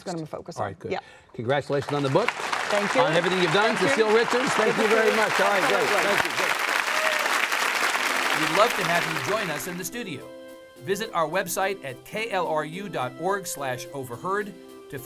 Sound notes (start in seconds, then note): 6.8 audience clapping